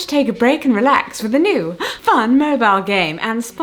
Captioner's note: gasps